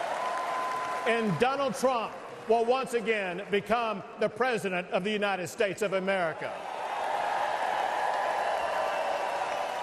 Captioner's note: applause